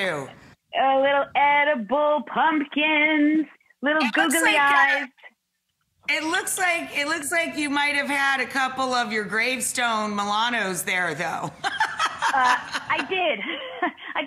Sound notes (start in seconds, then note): 11.6 laughing